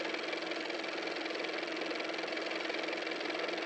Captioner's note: car motor